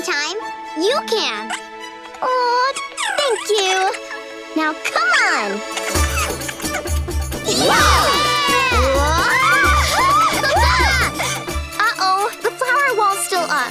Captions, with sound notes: you can. Aww, thank you! Now come on! [cheering] Uh-oh, the flower wall's still up.